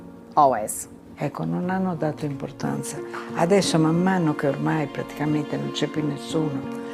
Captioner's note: speaking in foreign language